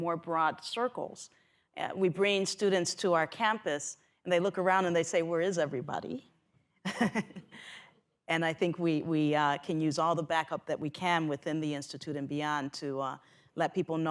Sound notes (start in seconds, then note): 6.2 laughs